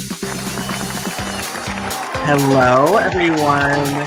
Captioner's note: audience applauding